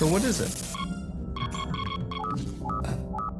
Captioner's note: alert signals